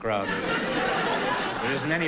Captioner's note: laughter